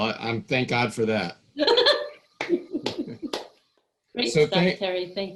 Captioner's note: laughing and clapping